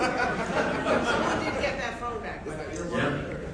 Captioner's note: audience laughing